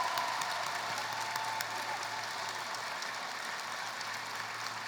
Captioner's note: applause